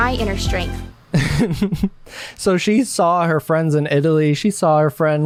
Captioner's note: laughs